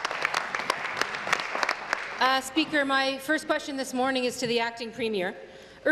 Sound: applause

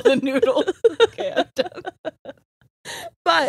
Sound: both laughing

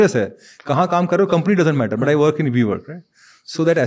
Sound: speaks in Hindi

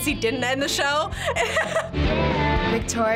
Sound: laughing

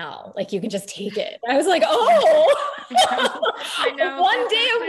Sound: laughing

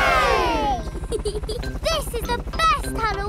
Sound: peppa giggles

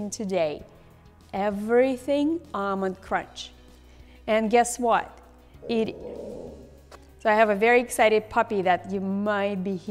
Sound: background noise from a dog

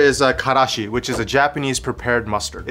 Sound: air whooshing

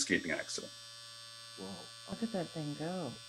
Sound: trimmer buzzing

